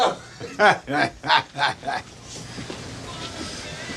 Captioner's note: Jerry laughing